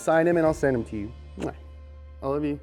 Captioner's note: lip kiss